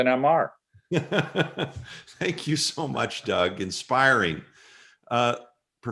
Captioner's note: laughter